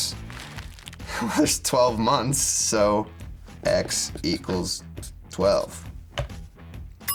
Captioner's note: laughs